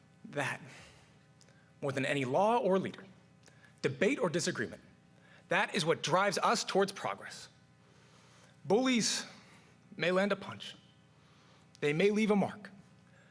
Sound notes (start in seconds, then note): none